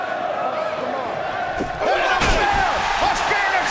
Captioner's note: audience chanting; audience cheers